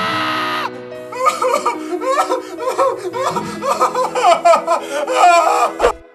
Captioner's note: cries